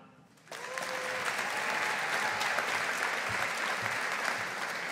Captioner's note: audience applauding